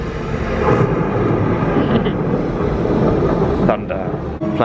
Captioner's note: thunder rumbling